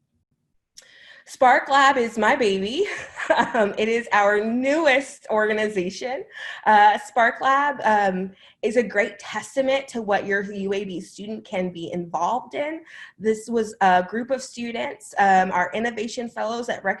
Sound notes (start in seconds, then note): 2.8 laughter